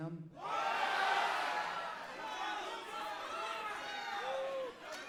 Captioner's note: audience cheering